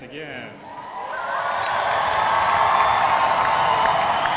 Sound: crowd applauding

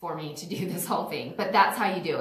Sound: laughs

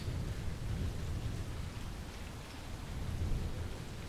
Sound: rain pouring

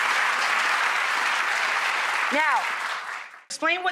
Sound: audience applauding

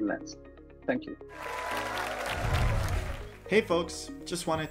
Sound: applause

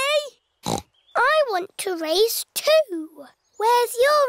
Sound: snorts

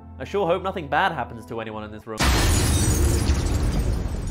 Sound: explodes

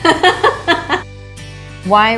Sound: laughing

